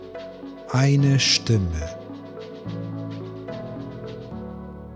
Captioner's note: german